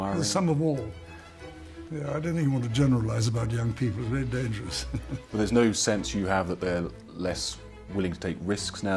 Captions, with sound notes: - They're some of all. I don't even want to generalize about young people, very dangerous. - [Voiceover] There's no sense you have about less willing to take risks nowadays--